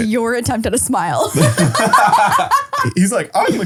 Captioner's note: laughing